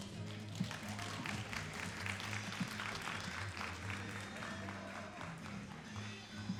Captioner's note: all applauding